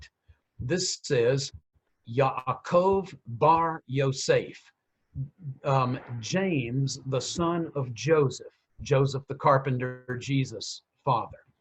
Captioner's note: speaking in Hebrew